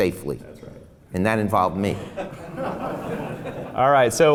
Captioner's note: laughs